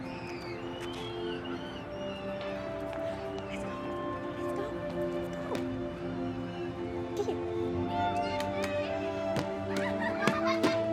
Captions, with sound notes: Let's go. Let's go. Let's go. [children chattering]